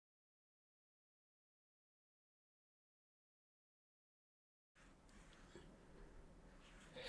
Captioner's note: silence